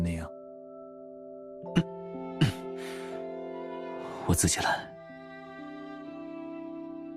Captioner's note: cough